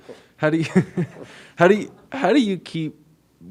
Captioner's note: reporter chuckles